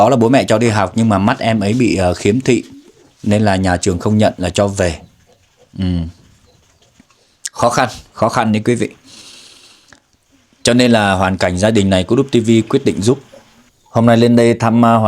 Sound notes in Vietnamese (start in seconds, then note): 9.0 khịt mũi